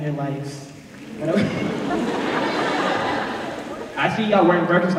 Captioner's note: laughter